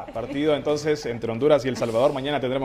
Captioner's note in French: risas